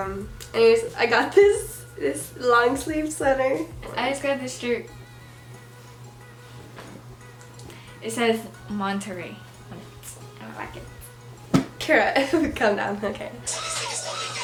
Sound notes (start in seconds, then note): 12.1 giggle